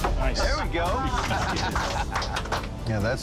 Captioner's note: laughter